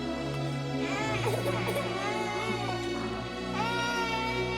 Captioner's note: baby crying